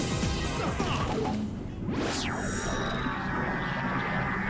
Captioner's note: techno Music; lots of smashing sounds